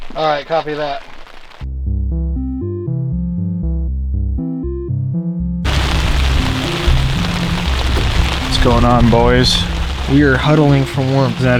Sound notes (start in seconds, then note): 1.8 upbeat music; 5.6 heavy rain falling